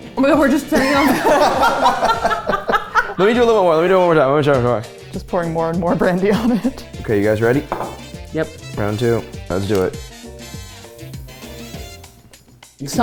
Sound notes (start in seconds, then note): 0.7 everyone laughs; 10.4 festive music